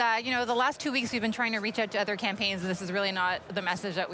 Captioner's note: none